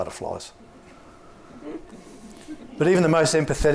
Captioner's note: audience laughs